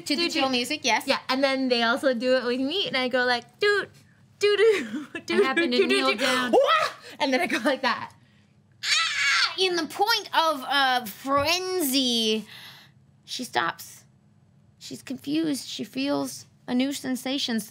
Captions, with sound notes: - To the chill music? - Yes. - Yeah. And then they also do it with me, and I go like doot, do do, doot do. - And have your needle down. (yells) - And then I go like that. - (yells) In the point of frenzy she stops. She's confused, she feels a new sensation,